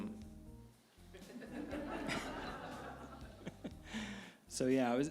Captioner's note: audience laughing